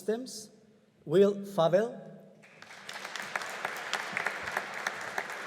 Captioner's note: audience applauding